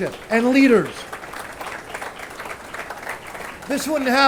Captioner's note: attendees applauding